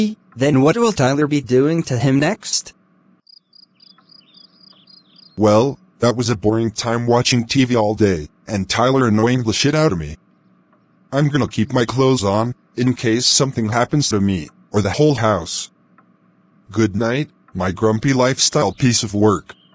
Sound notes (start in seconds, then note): 3.2 creaklings chirping